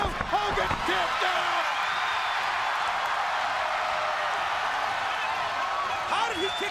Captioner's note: crowd cheering